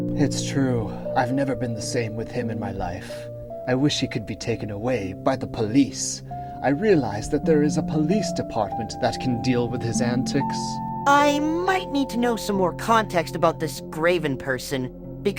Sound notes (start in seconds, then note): none